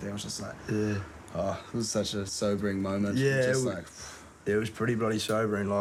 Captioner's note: exhales